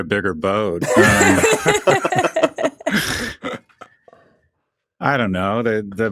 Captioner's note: all hosts laughing